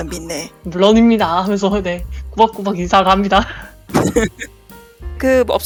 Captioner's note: laugh